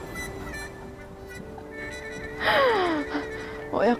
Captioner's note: silent laughter